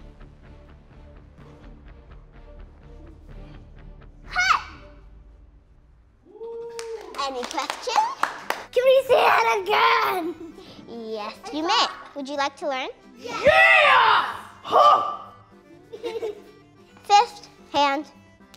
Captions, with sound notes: - Hut! (applause and whooping) - Any questions? - Can we see that again? - Yes, you may. Would you like to learn? - Yeah! Huh! (giggles) - Fist. Hand.